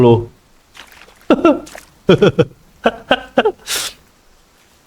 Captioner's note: laugh